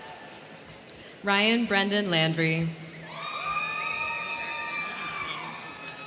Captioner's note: crowd cheering; crowd cheering